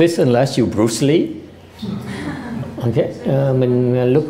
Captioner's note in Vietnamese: laughter